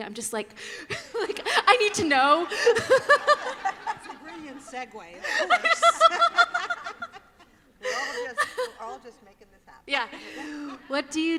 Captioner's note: laughter